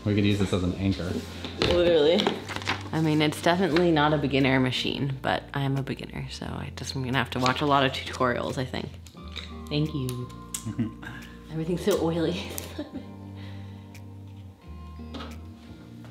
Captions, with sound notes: We're gonna use this as an anchor. - Oh, literally. I mean, it's definitely not a beginner machine, but I am a beginner so I just I'm gonna have to watch a lot of tutorials I think. Thank you. (laughs) Everything's so oily. (lighthearted music)